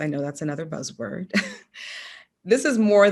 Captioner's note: chuckles